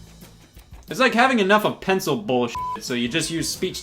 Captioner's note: beep